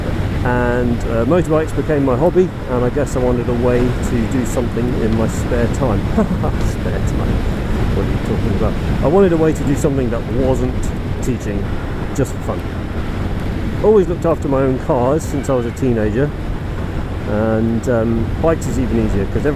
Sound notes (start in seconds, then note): 3.7 laughs